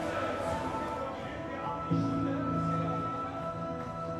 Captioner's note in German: Gedämpfte Stimme des Ansagers